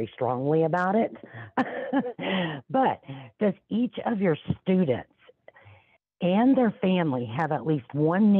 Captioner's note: laughs